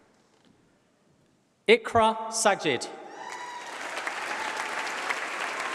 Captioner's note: applause